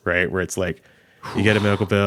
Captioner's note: sighing